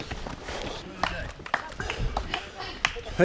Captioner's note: applause